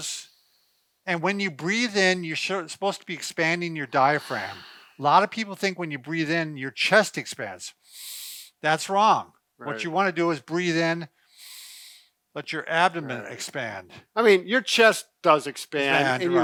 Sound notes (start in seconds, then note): 0.2 inhaling; 4.0 exhaling; 7.8 inhaling; 11.3 inhaling